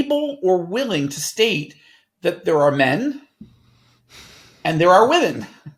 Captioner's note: sighing